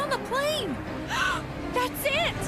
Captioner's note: gasp